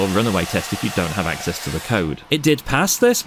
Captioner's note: loud hairdryer sounds kind of like BRRRRRRRRRRRRRR